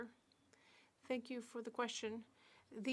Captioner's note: speaking French